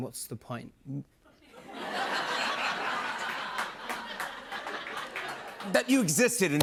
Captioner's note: laughter